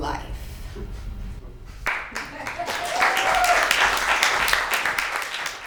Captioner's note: applause